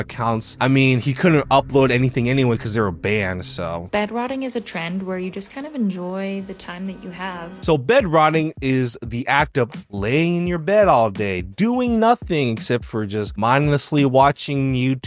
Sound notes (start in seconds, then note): 4.1 TikTok Voice